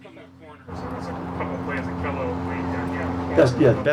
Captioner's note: background buzzing